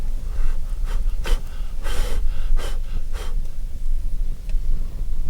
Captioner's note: Jake blowing fire out